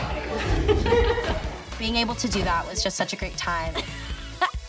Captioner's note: laughs